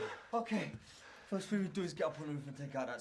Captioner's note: laughing and cheering